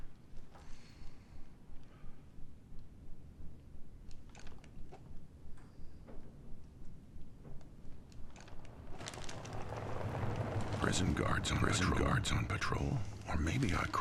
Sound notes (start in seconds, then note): 0.6 inhaling deeply; 8.3 vehicle approaching